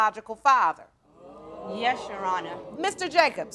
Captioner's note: audience gasps